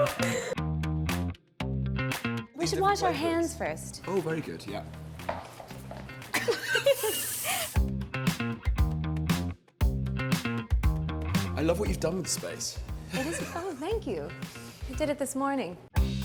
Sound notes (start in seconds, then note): 6.3 laughs